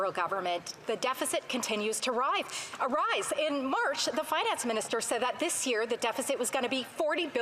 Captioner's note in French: voix de l'interprète